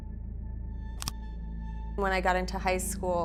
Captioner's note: camera clicking